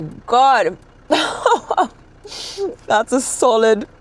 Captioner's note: laughs